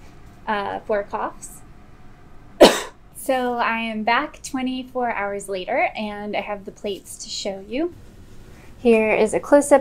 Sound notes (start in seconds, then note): 2.6 coughing